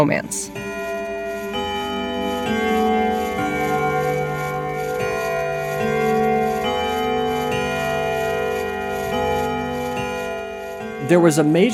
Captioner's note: soundbite of bells chiming